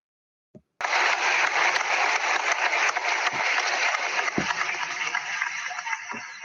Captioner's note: applause